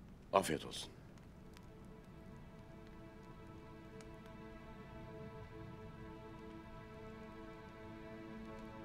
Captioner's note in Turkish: Ateş çıtırtısı sesi